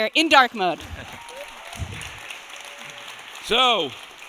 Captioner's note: audience applauding